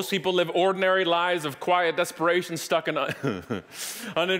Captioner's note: chuckling